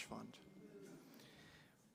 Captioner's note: crowd murmuring